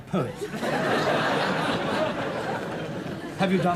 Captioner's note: audience laughs